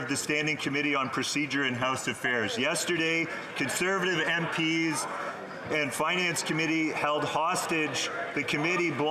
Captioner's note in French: voix de l'interprète